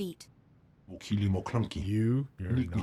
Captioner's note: speaking foreign language